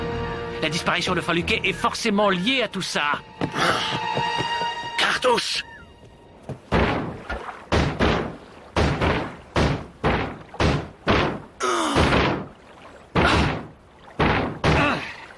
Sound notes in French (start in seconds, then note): 6.6 bonk bonk bonk; 14.1 bonk bonk bonk bonk